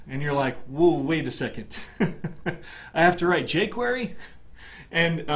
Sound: laugh

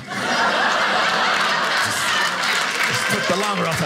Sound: audience clapping

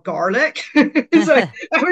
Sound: laughs

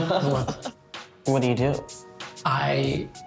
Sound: both laughing

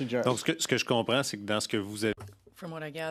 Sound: speaking French

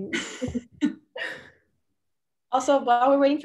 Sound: group laughing

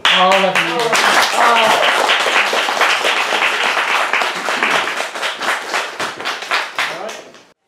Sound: clapping

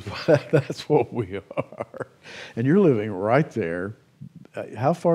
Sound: chuckles

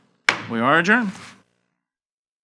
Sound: gavel bangs

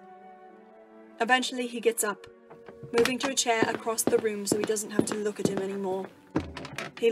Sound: footsteps

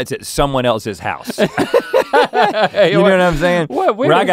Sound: laughing

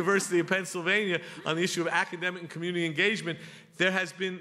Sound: laughter

